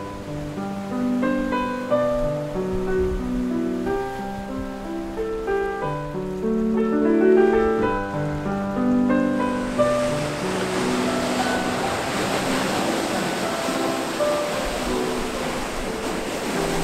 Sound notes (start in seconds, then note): 12.2 water splashing